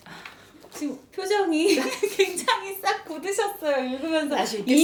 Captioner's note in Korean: 웃음